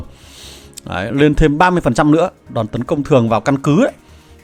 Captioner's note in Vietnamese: khịt mũi